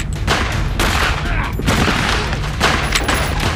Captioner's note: guns banging